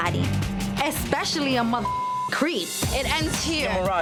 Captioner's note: beep